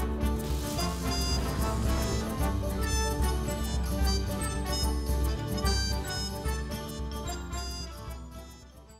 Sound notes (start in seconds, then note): 0.0 whimsical music; 0.2 energy crackling